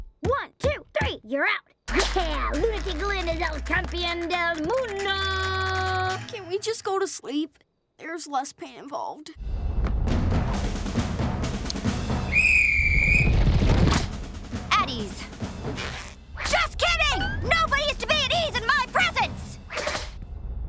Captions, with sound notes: One, two, three. You're out! Yeah! Lunatic Lynn is El Campeón del Mundo! Can we just go to sleep? There's less pain involved. [whistle blowing] At ease. Just kidding! Nobody is to be at ease in my presence!